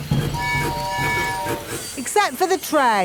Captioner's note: train tooting